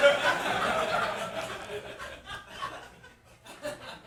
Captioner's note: audience laughing